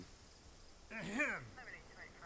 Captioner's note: old man abner clears throat